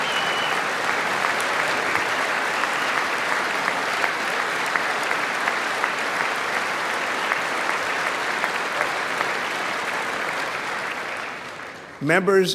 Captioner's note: applause